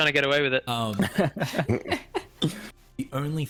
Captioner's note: all giggles